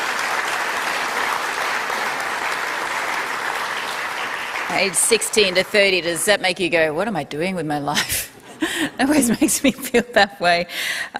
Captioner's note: applause